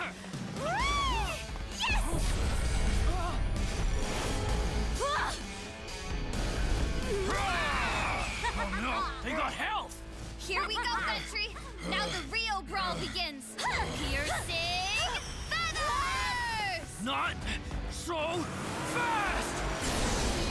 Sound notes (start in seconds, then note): 5.0 Ventri exclaiming; 7.2 screaming